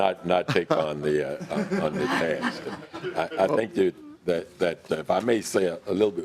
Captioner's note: laughing